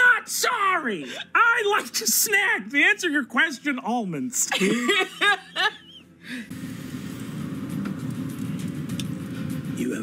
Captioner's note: both laugh